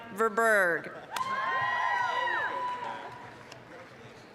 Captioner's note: applause, cheering